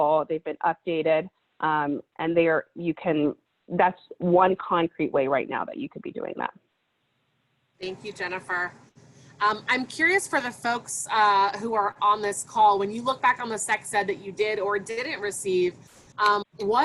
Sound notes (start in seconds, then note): none